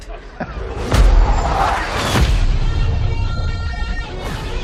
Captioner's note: laughs